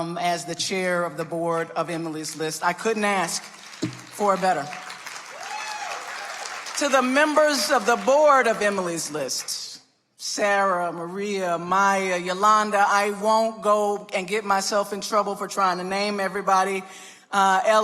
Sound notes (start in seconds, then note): 4.6 audience applauding